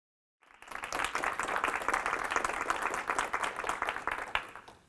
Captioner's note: audience applauding